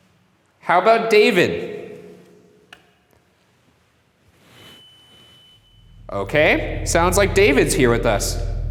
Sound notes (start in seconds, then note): 4.6 device beeps; 8.4 ominous music